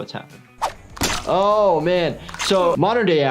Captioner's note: squelching